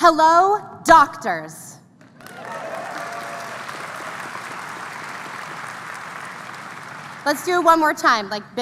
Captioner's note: applause